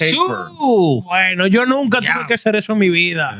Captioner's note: speaking In Foreign Language